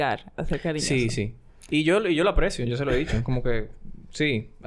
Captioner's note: laughs